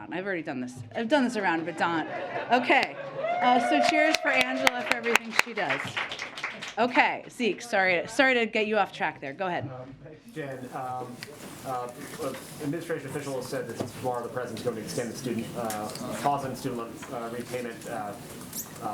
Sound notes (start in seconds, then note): 1.4 laughter; 5.4 applause